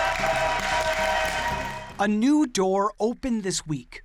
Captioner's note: cheers and applause